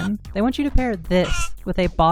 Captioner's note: chicken squeak; chicken cluck